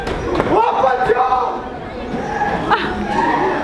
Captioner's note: screaming